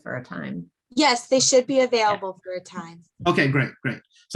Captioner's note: soft Voice